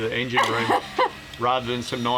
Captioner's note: laughs